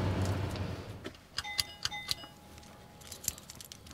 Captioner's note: ringing